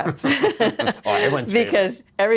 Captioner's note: chuckling